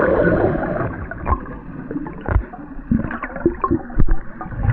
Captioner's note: water sloshing